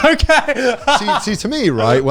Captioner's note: laughing